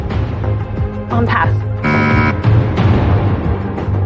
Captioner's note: buzzer sounds